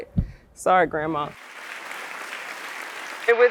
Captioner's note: applause